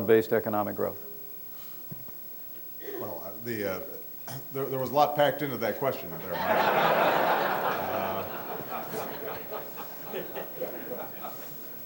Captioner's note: laughter